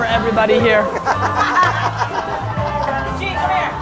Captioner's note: group laughter